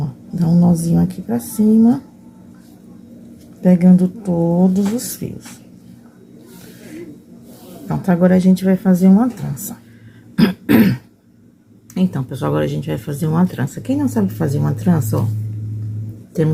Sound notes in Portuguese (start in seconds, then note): 10.3 tosse; 10.4 limpando a garganta